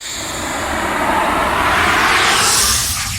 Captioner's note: logo whooshing